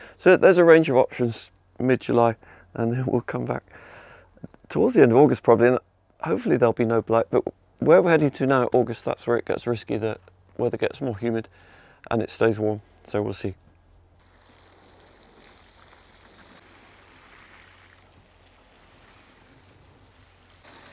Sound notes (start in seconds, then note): 14.2 water spraying